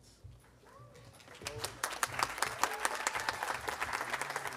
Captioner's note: audience applauding